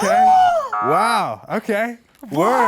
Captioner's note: gasps